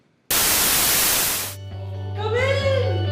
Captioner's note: TV static hissing